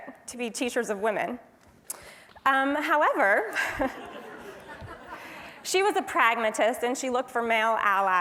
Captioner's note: laugh